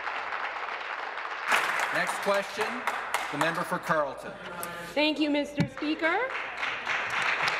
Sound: applause

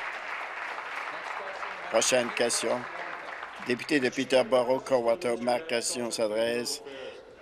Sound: applause

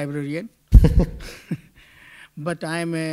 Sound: chuckle

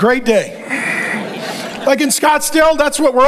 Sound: congregation laughing

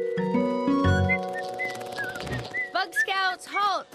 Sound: whistling

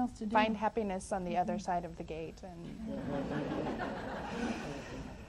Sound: audience laughs

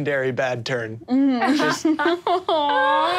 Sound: laughs

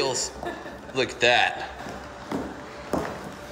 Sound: laughs

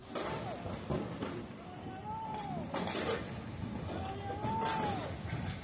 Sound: bridge cracking and crashing

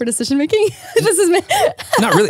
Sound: laughing

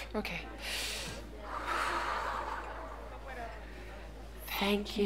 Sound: deep exhales

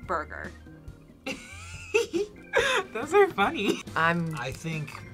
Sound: giggles

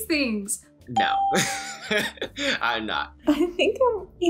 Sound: laughs

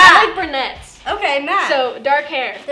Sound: clap

